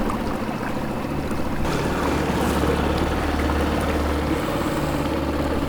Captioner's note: water splashing; motor puttering